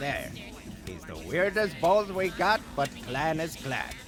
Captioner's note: none